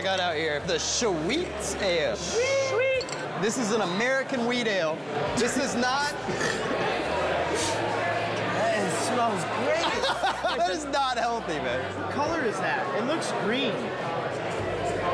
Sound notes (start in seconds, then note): 9.6 laughter